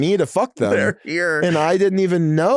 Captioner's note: laughing